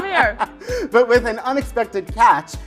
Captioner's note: laughs